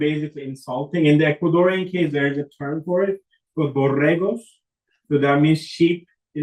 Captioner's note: spanish